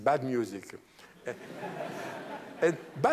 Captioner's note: laughter